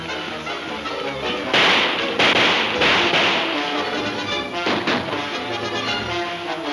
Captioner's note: dramatic music; guns firing